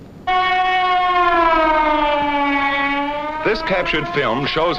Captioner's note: alarms wail